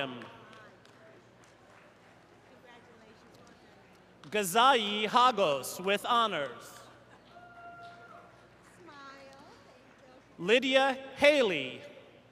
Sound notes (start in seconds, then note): 1.5 cheers and applause